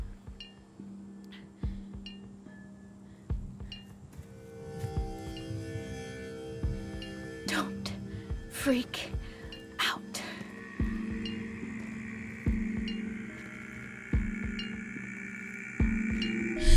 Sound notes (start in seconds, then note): 0.3 bells lightly dinging; 4.1 intensifying buzzing; 10.6 loud groaning in background; 10.7 bells dinging